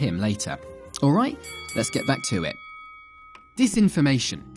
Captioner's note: dinging